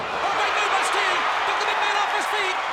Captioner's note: audience cheers